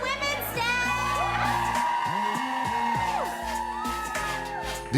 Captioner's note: crowd cheering